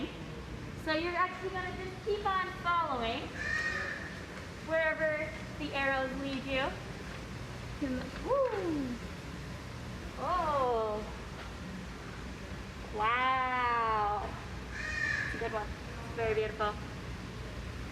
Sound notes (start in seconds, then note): 3.3 bird squawk; 8.8 ahhh, oohs & wow as she enjoys looking at the exhibits; 8.8 bird squawk